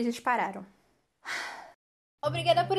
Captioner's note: sigh